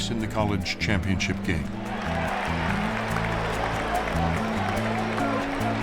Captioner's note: crowd cheers and applauds